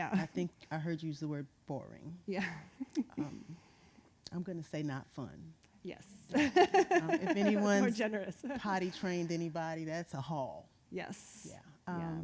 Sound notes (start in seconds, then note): 2.8 chuckles; 6.6 laughing